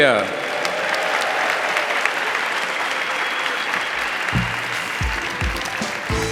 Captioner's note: audience applauding; audience cheering; upbeat music